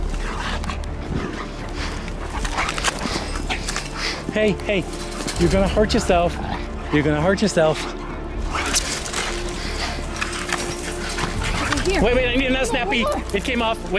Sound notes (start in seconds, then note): none